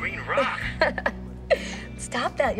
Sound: laughing

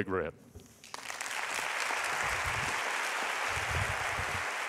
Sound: applauding

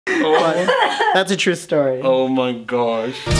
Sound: laughing in background

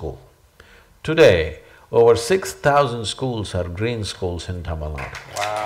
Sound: applause

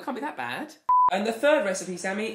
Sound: beep

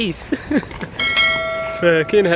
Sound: bell sound

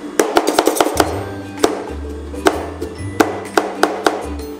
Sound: spatulas chopping

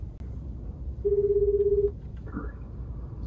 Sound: phone ringing

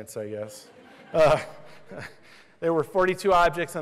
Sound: laughter

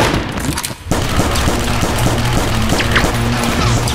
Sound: guns fire; crashing

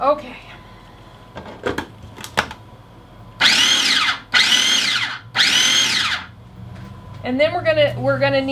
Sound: food processor pulsing

